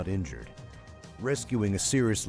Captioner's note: voiceover